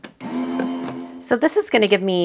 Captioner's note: machine whirring